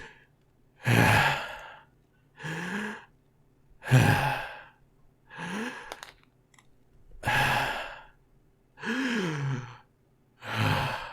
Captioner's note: heavy breathing continues for an undisclosed amount of time